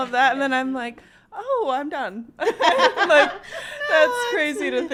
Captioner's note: laughs